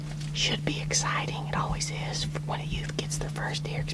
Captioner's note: whispering